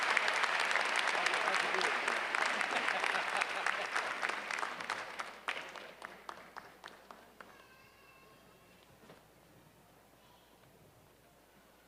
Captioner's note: applause